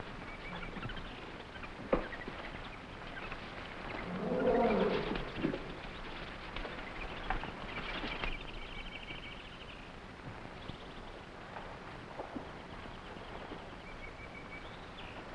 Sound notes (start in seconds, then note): 0.1 animals chattering; 0.5 plants rustling; 3.3 animals chattering; 3.3 footsteps echoing